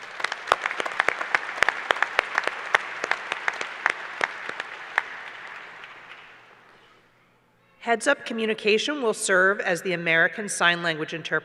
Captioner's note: applause